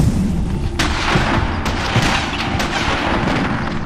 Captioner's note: guns fire